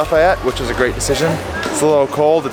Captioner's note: people chattering